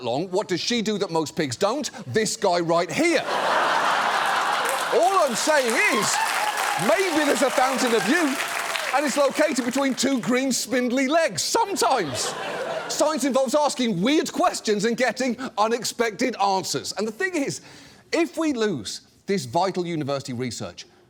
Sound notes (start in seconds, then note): 3.2 studio audience laughs, applauds